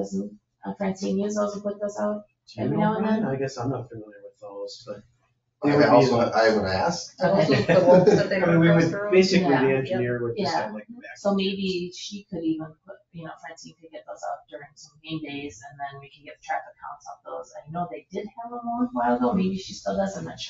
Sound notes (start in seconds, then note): 7.4 people chatter